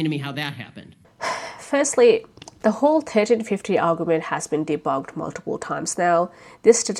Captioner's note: sighs